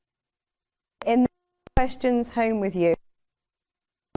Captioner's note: audio skipping